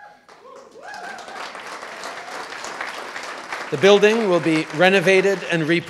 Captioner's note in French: Acclamations et applaudissements